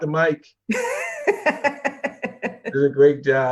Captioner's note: laughs